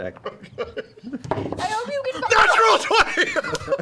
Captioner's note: laughing